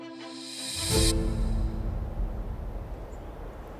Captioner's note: scene swooshes